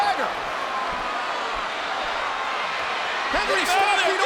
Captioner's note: crowd cheering